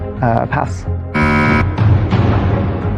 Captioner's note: buzzer sounds